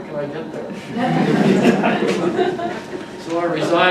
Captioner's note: audience laughs